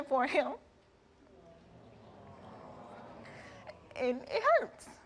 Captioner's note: audience groans